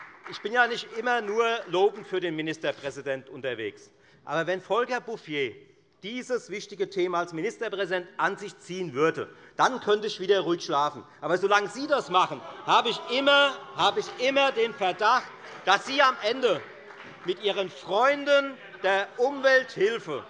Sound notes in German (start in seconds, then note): 12.1 Lachen bei dem BÜNDNIS 90/DIE GRÜNEN und bei Abgeordneten der CDU